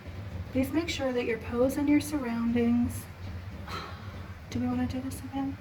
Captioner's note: scoff